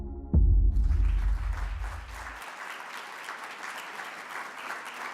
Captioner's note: audience applauding